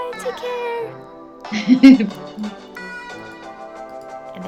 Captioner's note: laughing